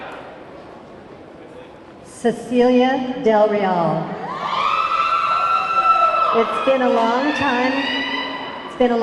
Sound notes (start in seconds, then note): 4.2 audience clamoring